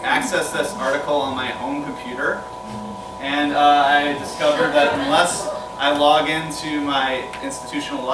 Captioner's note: laughter